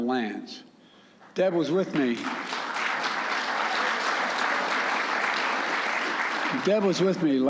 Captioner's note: applause